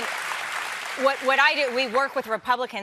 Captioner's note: applause